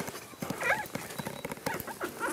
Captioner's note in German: Knarzen